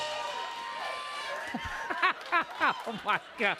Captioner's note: laughter